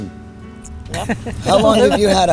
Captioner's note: laughing